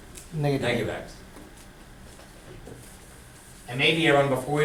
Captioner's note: voiceover